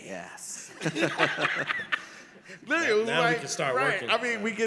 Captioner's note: all laughed